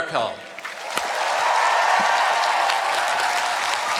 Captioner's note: cheering